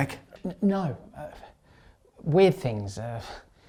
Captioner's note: stammers